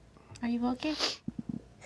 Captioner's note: Linneus sniffles